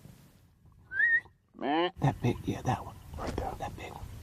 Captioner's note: whistles and grunts